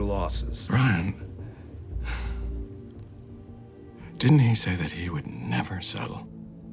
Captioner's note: sighs